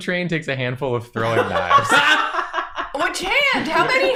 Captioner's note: chorus of chuckles